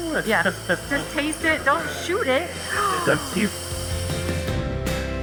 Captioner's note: laughs; gasps; upbeat music continues